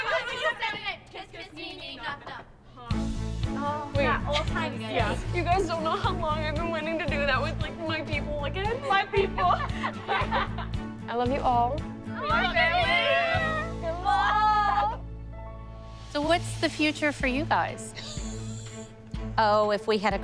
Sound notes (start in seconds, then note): 8.9 laughter; 17.9 Holly laughs